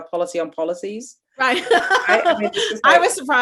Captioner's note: laughing